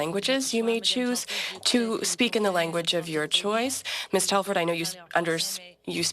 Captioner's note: speaking French